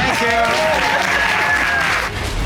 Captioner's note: audience applauding